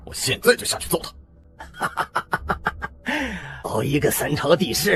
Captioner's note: mocking laughter